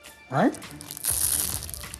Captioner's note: loud crunch